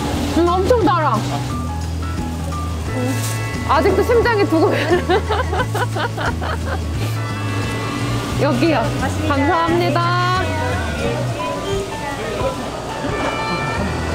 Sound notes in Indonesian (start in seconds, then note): 4.6 tertawa